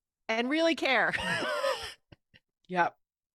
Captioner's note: chuckles